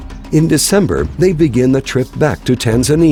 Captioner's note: voiceover